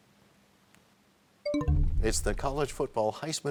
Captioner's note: bell chimes, time expires